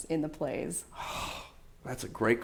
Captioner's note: sighs